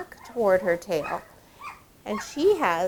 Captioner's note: puppies barking and whimpering